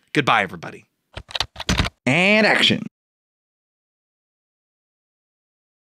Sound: typing

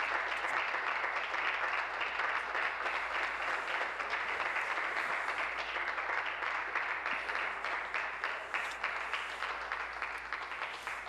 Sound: applause

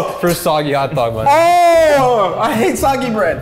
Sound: shouts in disgust

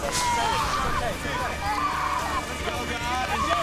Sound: screams

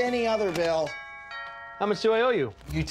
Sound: doorbell rings

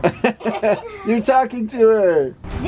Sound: laughing

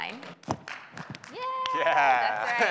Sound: audience applauds

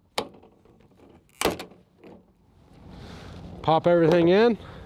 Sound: fence clicking

